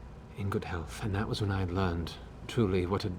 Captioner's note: none